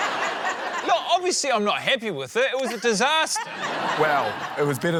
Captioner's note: laughter; laughter